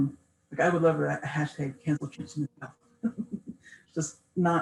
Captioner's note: laughs